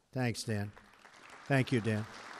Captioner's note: applause